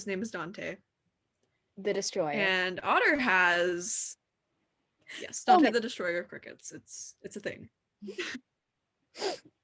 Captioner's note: chuckle